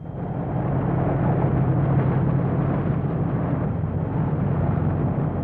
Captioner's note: engine revving